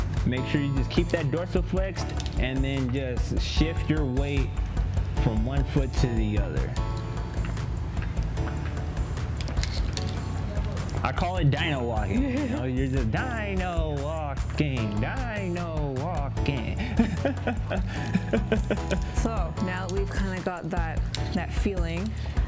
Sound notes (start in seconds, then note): 13.1 sing-song voice; 16.6 laughs